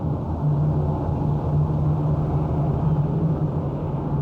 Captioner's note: plane engines rumbling